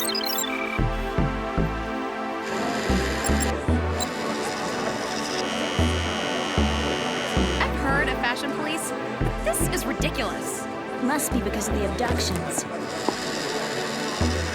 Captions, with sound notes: [computer beep] [scanner machine buzz] I've heard of fashion police, but but this is ridiculous. Must be because of the abductions.